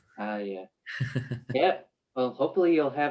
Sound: giggles

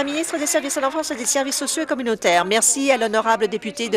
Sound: applause

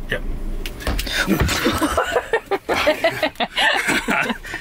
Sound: laughing

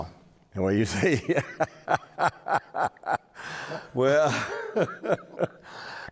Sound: laughs

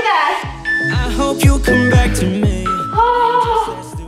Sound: timer beeping

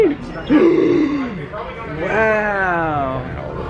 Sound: gasps

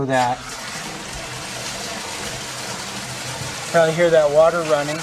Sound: water running

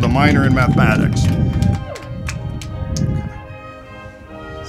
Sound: audience applauding

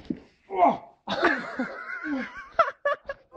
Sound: dull thud; man groans in pain; laughter off screen

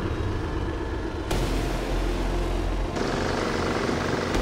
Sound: engines rumbling

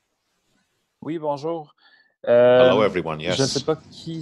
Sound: speaking in French

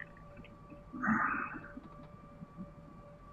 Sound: sighs

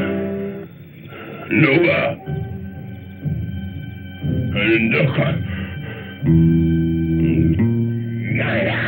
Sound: caveman grunting

